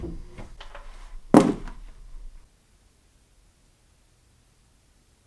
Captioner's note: knife and gloves dropping on the floor